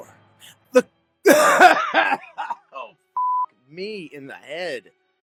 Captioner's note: coughing fit